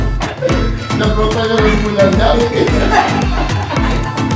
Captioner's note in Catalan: riure